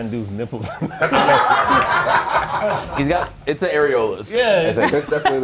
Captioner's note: laugh